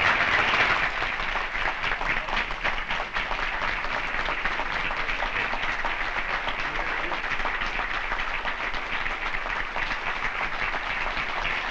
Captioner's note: applause